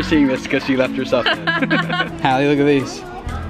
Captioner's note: laugh